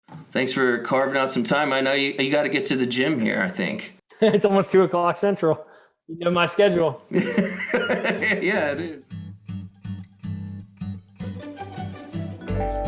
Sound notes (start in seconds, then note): 3.8 laughing; 7.1 laughing; 10.4 instrumental music